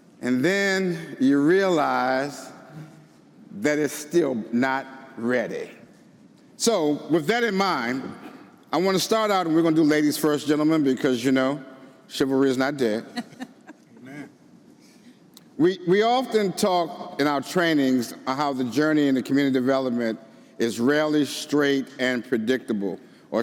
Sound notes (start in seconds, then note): 13.1 all laughing